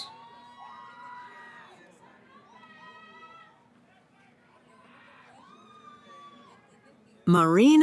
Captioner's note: cheering